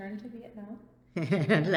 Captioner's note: laughs